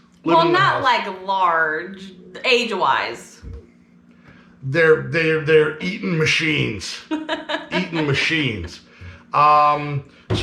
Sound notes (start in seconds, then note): 7.0 chuckling